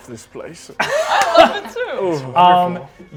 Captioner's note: laughter